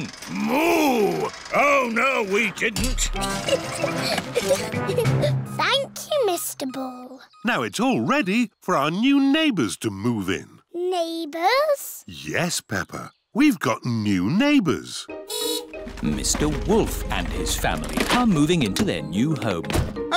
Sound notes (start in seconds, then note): 3.2 giggling; 14.7 horn beeps